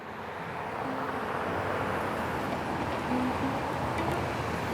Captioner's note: cars passing